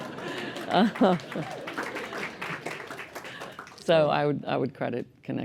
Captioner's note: laughter; applause